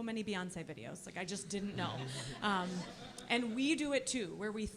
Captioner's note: audience laughing